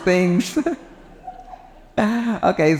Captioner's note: laughing